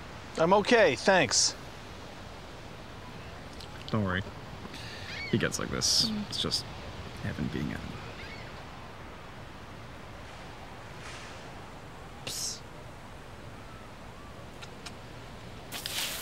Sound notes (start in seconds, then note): 14.5 kissing sounds